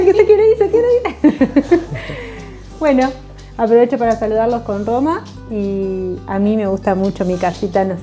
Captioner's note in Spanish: risas